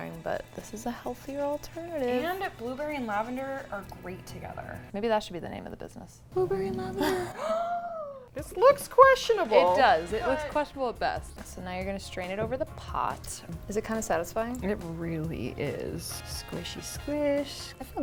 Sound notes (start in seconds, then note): 7.0 gasps